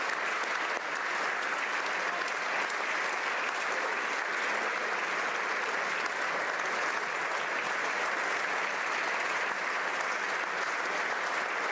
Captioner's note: applause